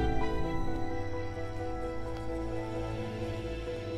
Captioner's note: Footsteps approaching